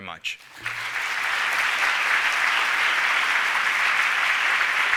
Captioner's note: applause